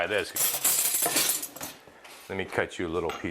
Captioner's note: cutlery clanging